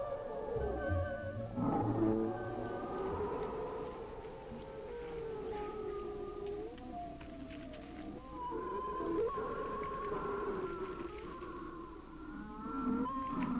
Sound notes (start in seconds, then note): 0.2 creature growling; 7.8 creature growling